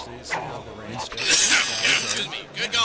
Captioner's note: coughs and clears throat